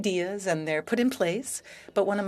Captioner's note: speaking French